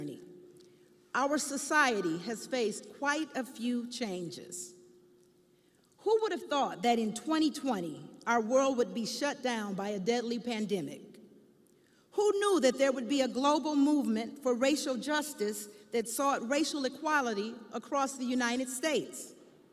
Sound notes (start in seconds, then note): none